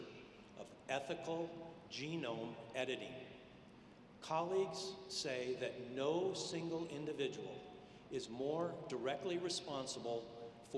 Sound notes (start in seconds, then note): none